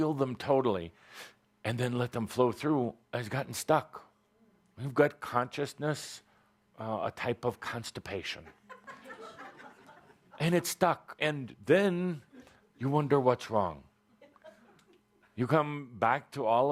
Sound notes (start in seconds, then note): 8.4 laughter